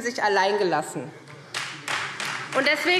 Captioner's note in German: Beifall